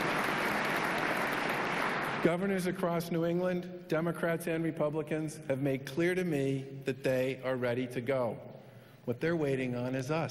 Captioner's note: applause